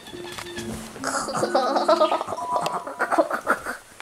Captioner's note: making weird noises